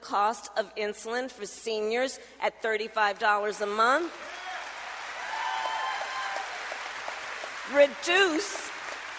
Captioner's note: applause